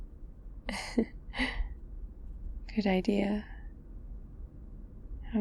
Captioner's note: laughs